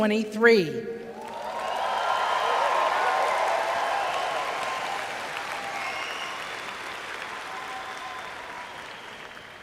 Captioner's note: cheers